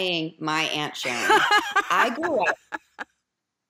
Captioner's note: laughs